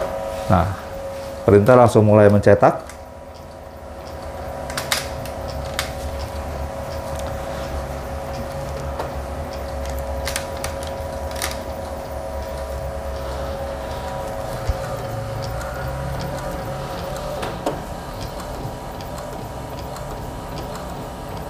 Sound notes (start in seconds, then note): 0.1 printer machine noise; 21.2 printer machine noise